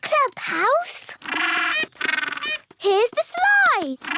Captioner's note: honking